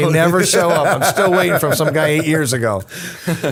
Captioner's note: laughter